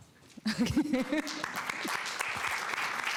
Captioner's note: applause